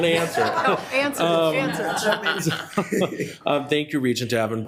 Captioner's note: members laughs